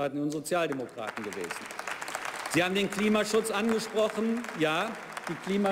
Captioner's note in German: Beifall bei der SPD